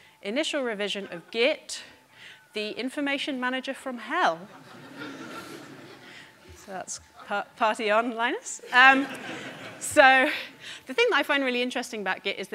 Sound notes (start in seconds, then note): 4.5 audience laughing